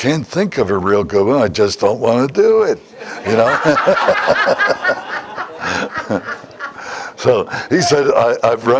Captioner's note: Смех